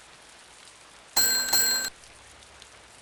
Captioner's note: bell jingles